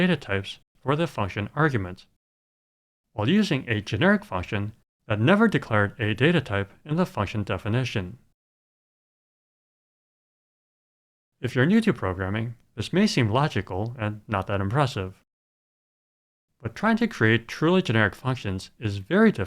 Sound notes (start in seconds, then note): none